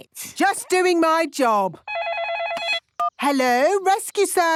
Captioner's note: phone ringing